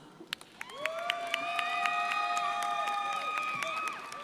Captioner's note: crowd applauding